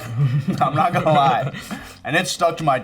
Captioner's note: both laughing